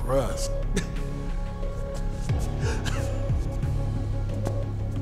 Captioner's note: laughing